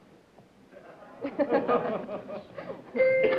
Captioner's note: laughter